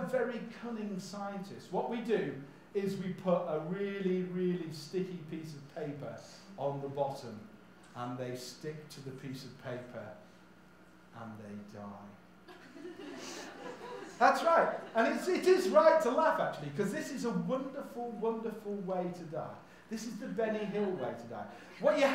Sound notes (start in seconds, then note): 12.5 audience laughs